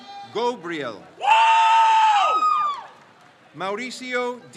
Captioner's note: crowd cheers